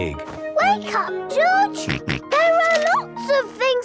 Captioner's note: George snorts